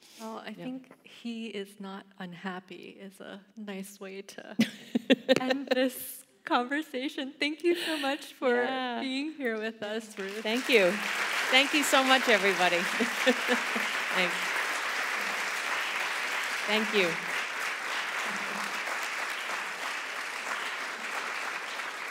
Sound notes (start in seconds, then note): 14.5 applause